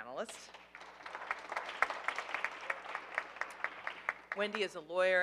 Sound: audience applauding

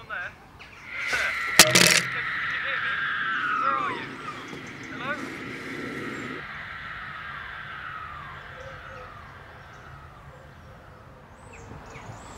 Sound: ghostly shriek

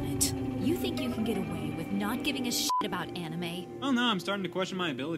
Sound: beep

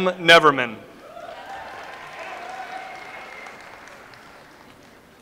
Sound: audience applauds

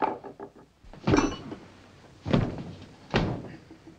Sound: fist thudding

